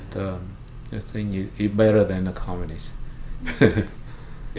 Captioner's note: laughs